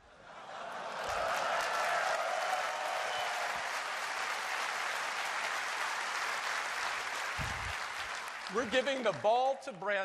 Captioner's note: applause